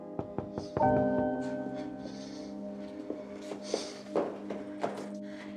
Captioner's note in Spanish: toques en la puerta